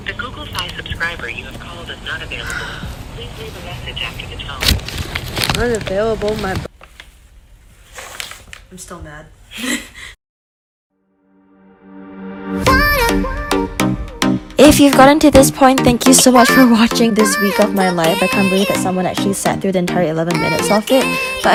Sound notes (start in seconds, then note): 9.6 laughter